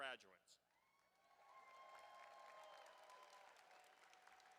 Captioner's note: applause